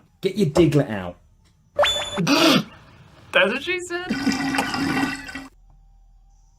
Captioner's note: anime wink noise; bath slurping noise